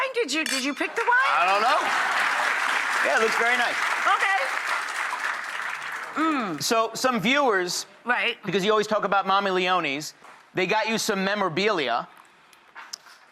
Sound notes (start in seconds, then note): 2.7 audience applauds